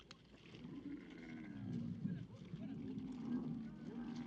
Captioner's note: camel groans